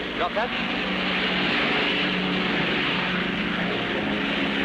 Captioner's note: plane engines roaring